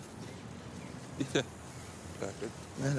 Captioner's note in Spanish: zumbido de insectos